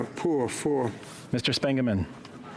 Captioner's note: speaking French